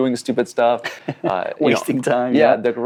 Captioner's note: laughs